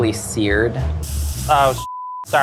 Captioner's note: scallops sizzling